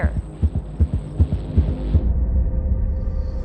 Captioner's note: atmospheric background effects